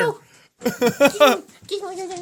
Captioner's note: laughs